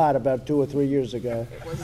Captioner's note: laughter